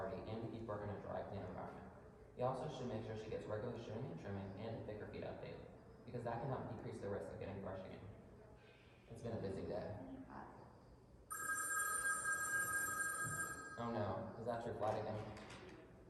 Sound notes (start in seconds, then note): 11.3 phone rings